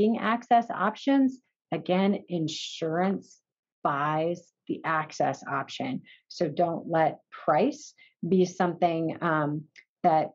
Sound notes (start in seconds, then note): none